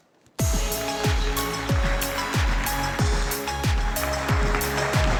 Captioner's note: applause